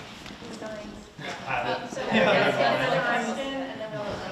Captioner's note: attendees chattering